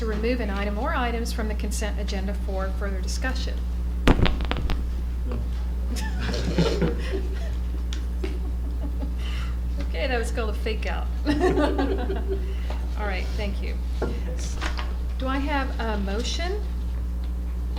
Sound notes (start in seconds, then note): 11.2 laughter